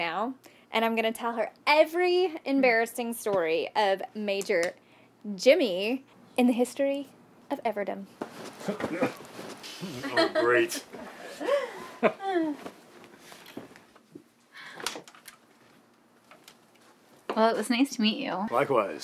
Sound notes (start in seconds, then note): 9.9 laughter; 14.1 door clicks